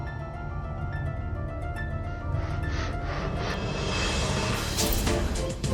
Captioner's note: approaching huffing